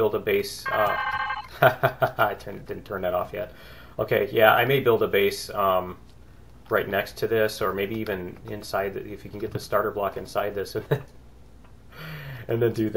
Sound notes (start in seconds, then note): 0.9 twitching inventory sound; 2.8 laughs